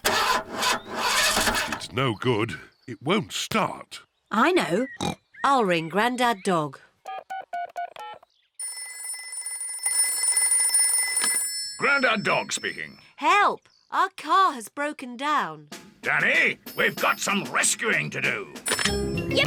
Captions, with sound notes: -(ENGINE SPUTTERS) -It's no good. It won't start. I know. (SNORTS) I'll ring Granddad Dog. -(BUTTONS BEEPING) -(PHONE RINGS) Granddad Dog speaking. Help! Our car has broken down! Danny, we've got some rescuing to do!